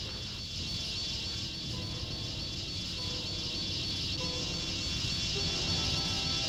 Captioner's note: tense orchestral music; wasps buzzing